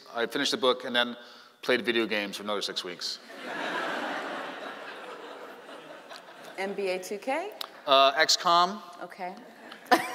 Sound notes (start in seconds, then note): 3.4 laughing; 9.6 laughing